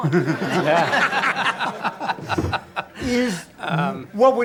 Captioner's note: audience laughter